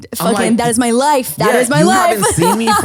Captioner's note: laughs